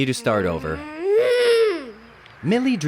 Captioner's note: angry grunt